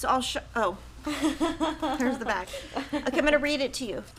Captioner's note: laughing